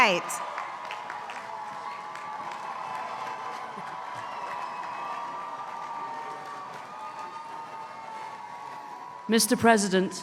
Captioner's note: applause